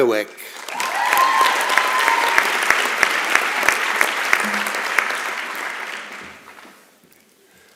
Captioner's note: applause and Cheering